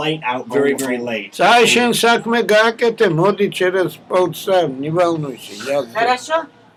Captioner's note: switching to mixed Georgian-Russian